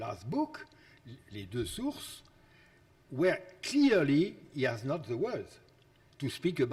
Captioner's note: speaks foreign language